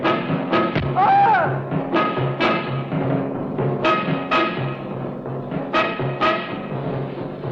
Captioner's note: screaming; dramatic music